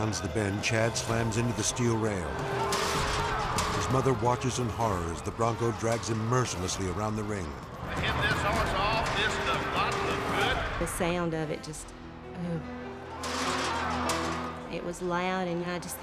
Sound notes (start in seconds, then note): 2.2 rail banging